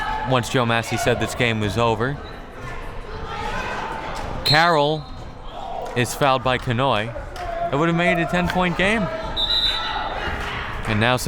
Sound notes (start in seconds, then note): 4.4 whistle; 9.3 whistle